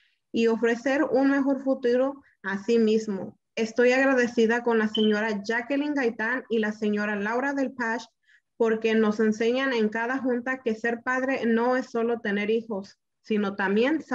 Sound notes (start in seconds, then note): none